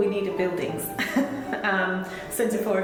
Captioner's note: giggles